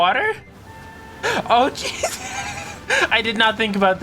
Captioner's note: laughing